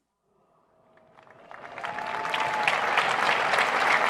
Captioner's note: applauding